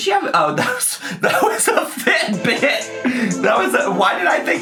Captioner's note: laughing